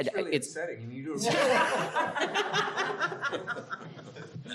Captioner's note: panelists laughs